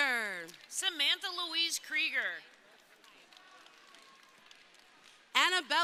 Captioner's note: crowd cheering